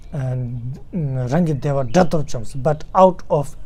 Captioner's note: tibetan